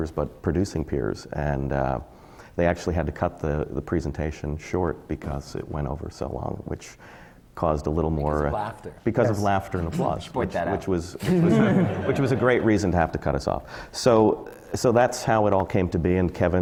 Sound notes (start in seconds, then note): 11.2 laughter